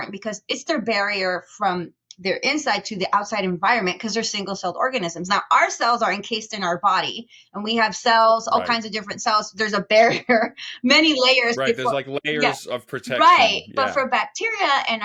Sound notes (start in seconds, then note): 11.6 chuckles